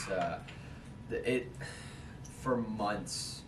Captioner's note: sigh